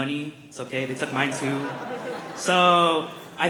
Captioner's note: laughter